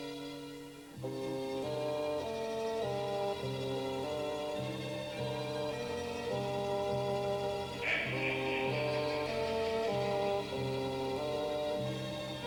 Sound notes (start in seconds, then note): 7.8 evil laughter